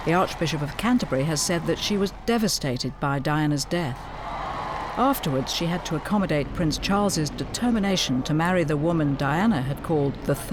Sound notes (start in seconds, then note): 4.2 crowd cheering